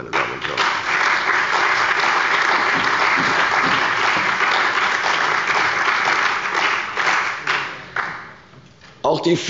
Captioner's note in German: Beifall bei der CDU und dem BÜNDNIS 90/DIE GRÜNEN